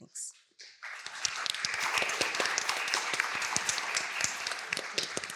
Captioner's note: applause